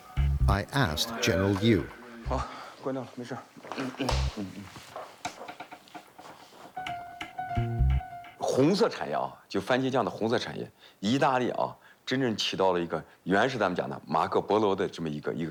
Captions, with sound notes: I asked General Liu. (speaking in foreign language)